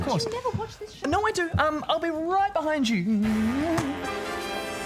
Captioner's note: murmurs